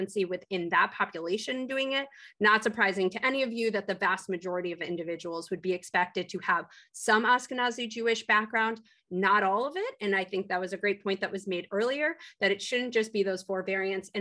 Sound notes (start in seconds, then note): none